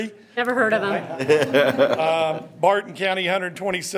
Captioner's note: members laughing